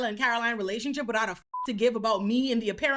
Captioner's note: beep